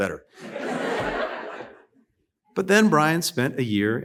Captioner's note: laughter